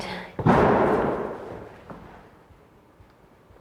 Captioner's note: door bangs